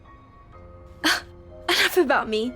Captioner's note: slow piano music; Laila sighs